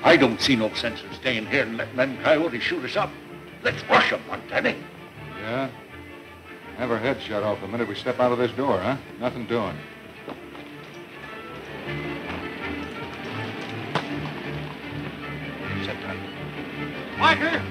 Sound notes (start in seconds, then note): 12.1 hoof beats and running footsteps